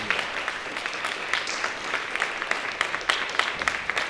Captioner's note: audience applying